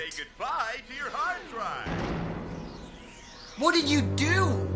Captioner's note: voice from computer